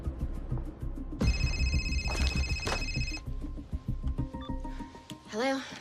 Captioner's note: phone ringing